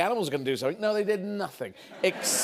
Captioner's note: laughter